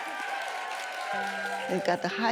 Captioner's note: crowd cheering